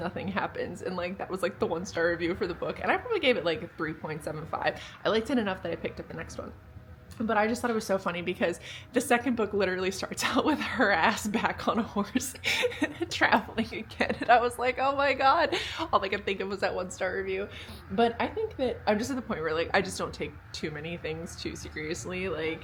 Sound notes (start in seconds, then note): 12.2 laughing